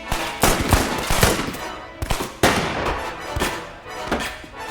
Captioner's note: dramatic music; guns firing; dramatic music